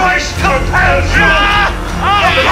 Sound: man screams

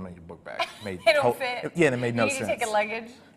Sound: laughs

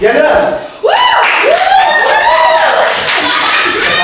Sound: cheering and clapping

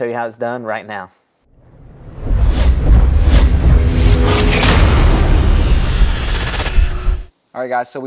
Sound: sound effect

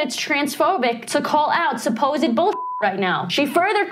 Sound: beep

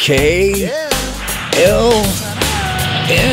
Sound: truck chuckles; blue truck giggles

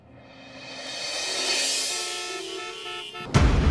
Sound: horns blaring; suspenseful music playing

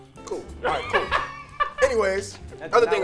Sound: laughs

